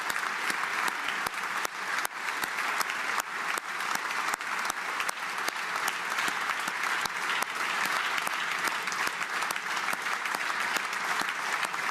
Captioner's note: applause